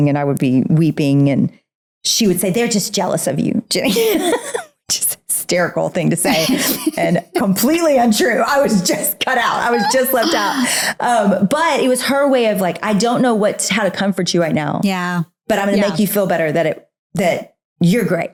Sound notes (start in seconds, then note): 3.8 laughs